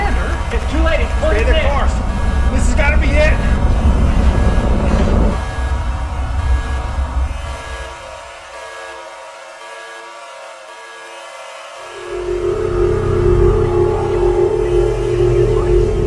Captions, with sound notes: - Commander. - It's too late. - Stay the course, this has gotta be it. (suspenseful atmospheric music) (device beeping) (ominous atmospheric music) (eerie atmospheric music)